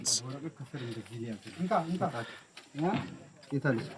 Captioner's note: speaking in foreign